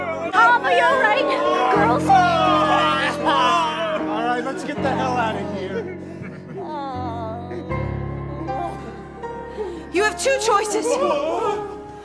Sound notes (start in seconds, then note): 2.3 men crying in agony